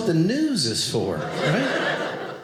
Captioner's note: audience laughing